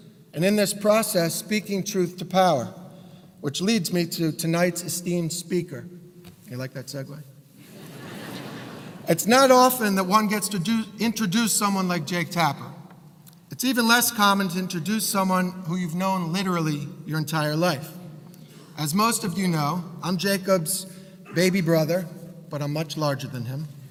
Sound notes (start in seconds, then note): 7.7 laugh